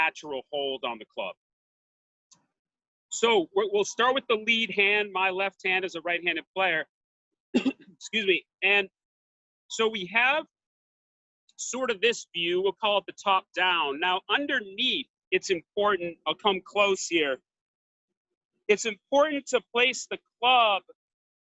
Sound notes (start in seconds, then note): 7.5 coughs